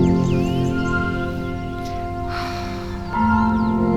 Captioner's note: exhales